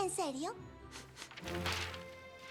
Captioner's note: sniff sniff